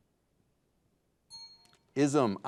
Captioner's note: bell dings